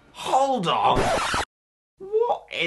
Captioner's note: record scratch